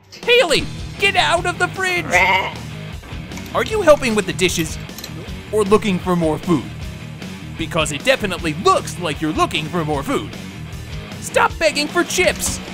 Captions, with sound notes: Hailey! Get out of the fridge! (bleating) Are you helping with the dishes, or looking for more food? Because it definitely looks like you're looking for more food! Stop begging for chips!